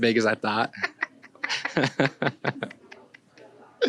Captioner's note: laughing